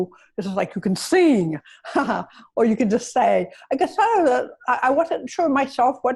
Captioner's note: chuckles